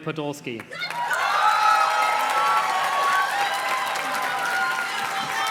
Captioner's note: audience cheers and claps